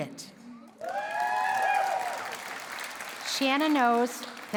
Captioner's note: cheering and applause